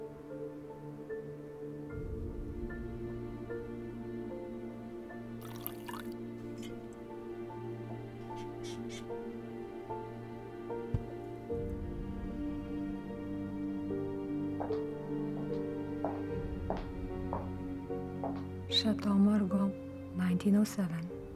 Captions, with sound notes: (wine gurgling) (soft piano music) Chartreuse Mougères, 1907.